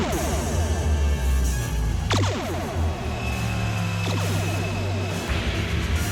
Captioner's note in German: Torpedo-Schüsse; dramatische Musik